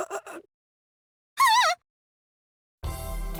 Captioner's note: pained groan; panicked gasp